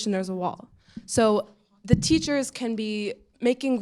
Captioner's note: none